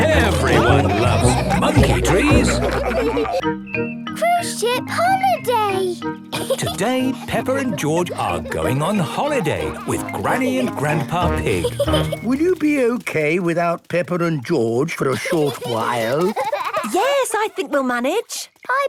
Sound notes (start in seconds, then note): 2.6 all laughing; 15.0 giggling